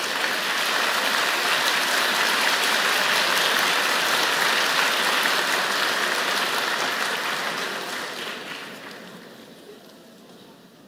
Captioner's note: applause